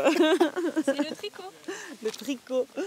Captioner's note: laughs